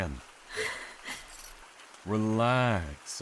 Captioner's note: sharp inhale